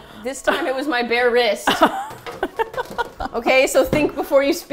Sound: crash; indignantly; laughs

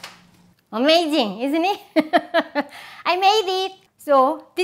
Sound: laughs

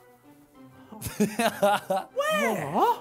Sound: laughs

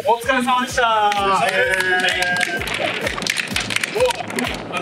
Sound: clapp

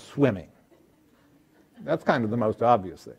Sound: audience laughing

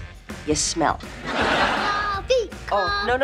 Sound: laughing

